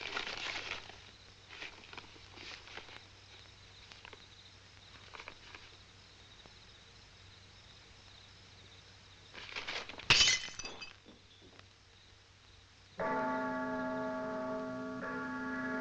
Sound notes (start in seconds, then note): 10.0 glass breaks; 13.0 church bell tolling